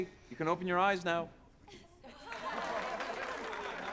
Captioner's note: people applauding